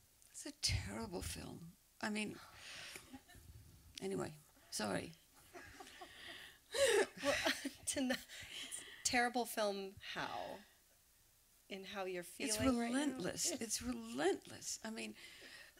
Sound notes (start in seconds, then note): 5.4 laughter; 5.5 laughing